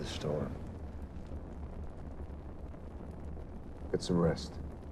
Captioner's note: fire crackling